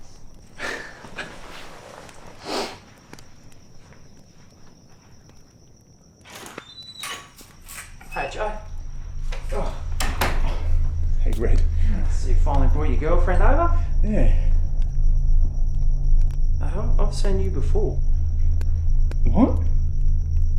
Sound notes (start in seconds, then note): 0.6 laughing; 6.2 door opening; 10.4 sinister music